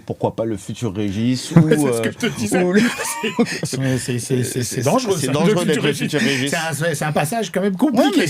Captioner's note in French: rires